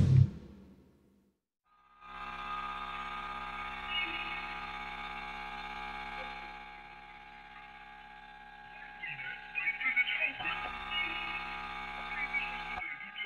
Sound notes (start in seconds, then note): 1.8 radio static